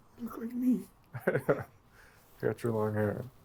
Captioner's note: chuckles